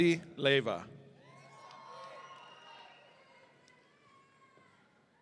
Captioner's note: audience cheering